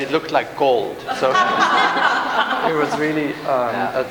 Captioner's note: laughter